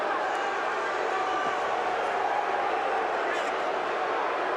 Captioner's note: crowd continues jeering